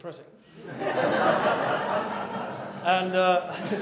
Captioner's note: laughter